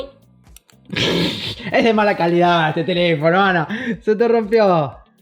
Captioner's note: laughs